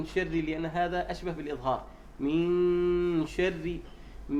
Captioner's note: saying clearly